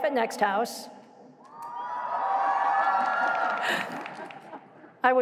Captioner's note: crowd cheering